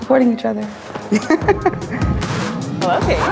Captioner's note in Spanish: Risas